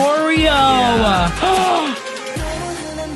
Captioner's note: gasp